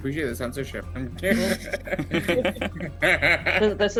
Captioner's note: laughter